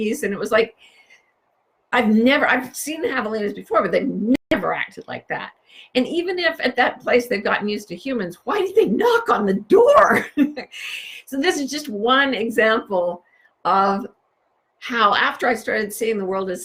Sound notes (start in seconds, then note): 10.4 chuckles